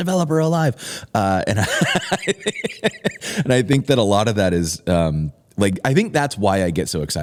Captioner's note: laughter